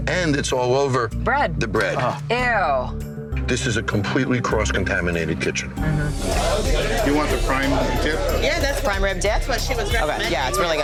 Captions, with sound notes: and it's all over the bread. - Bread. Ew! - This is a completely cross-contaminated kitchen. - Mm-hmm. (customers chattering) - You want the prime rib dip? - Yeah, that's the prime rib dip, that's what she was recommending. - Okay, yeah,